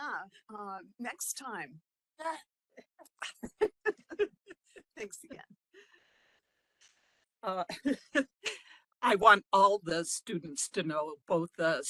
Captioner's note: laughing